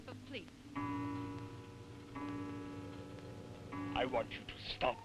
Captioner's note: clock chiming